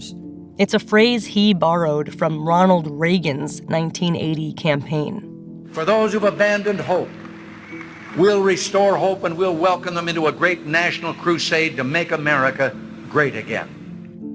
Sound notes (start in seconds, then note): 3.9 soundbite of archived recording